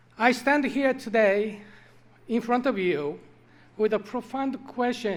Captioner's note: none